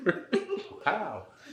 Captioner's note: both giggle